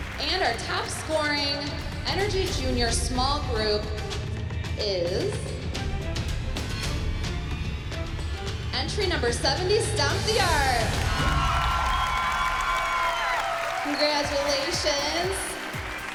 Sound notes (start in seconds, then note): 10.7 applause, cheering